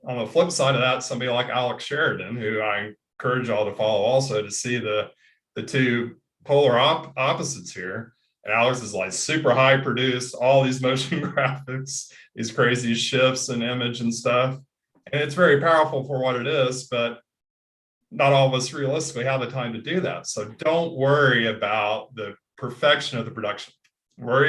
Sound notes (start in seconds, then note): 11.0 laughs